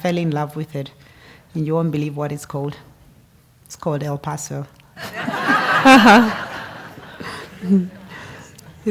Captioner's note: laugh